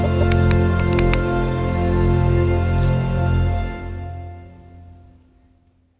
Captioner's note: bright music; keyboard clicking; bright music continues